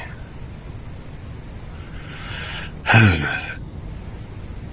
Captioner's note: sigh